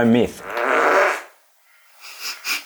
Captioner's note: fart noise